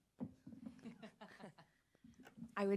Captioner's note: chuckling